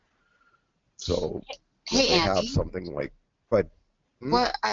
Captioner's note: voiceover